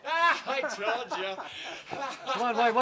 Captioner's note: laughing